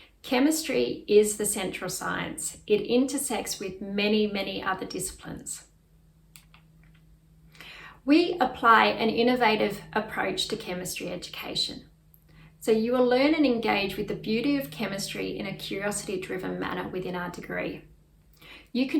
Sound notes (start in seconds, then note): 6.3 mouse clicks